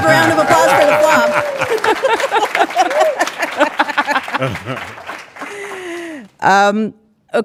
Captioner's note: hosts laughing; audience clapping